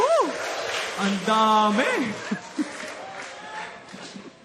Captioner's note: chuckles